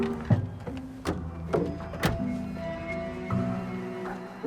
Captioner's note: trunk closes